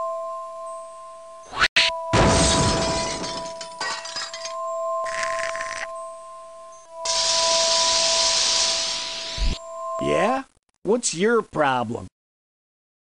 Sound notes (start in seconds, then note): 2.1 glass shattering; 7.1 searing blowtorch